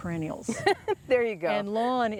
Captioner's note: laughing loudly